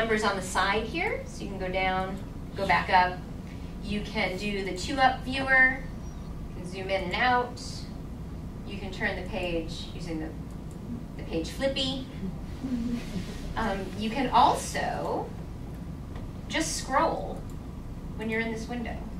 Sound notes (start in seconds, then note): 12.6 audience chuckling